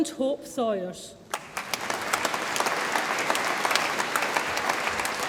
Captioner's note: audience applauds